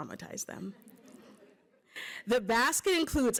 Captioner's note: laughter